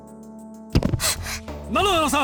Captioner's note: gasp